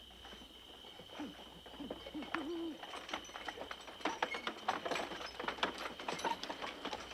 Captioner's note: owl hooting; wagon rattling